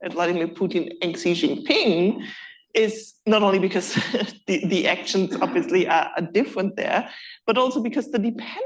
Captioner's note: laughs